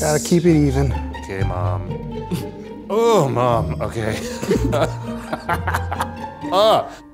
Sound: laughs

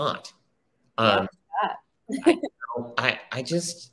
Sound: laughs

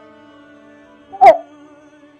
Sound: crying

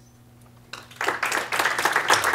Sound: applause

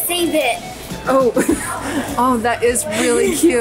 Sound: laughs

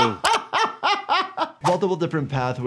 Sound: laughs

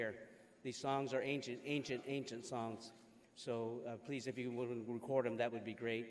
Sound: speaking foreign language

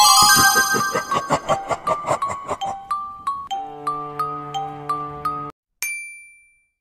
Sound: laughing

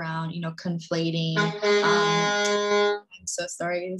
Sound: train hoots

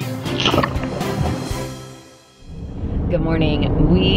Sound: laughs; splashing

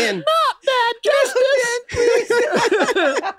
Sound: imitating kids; group laughs

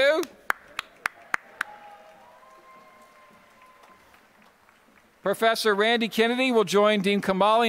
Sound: applause

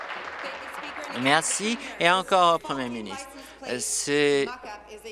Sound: applause

